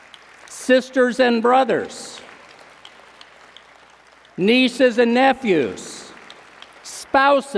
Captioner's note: applause